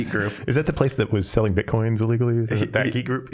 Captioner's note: chuckling